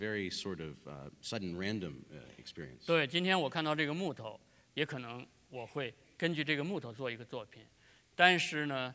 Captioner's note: speaking in Chinese